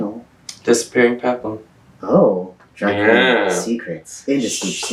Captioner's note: laughs